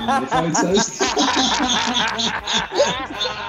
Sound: laughing

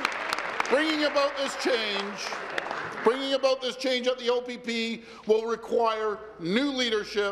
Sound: applause

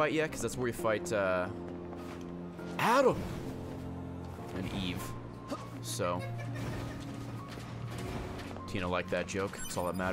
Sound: Vine voice; giggles

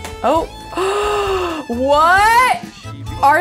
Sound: gasps

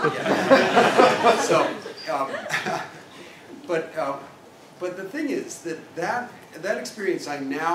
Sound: laugh

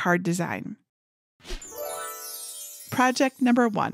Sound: magical chiming

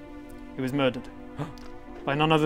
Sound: gasp!

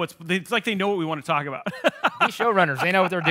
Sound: laughing

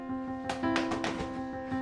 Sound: smack on head

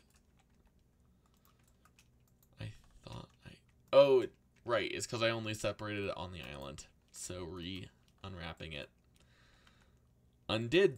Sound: muttered

